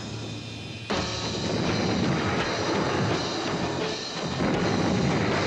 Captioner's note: guns booming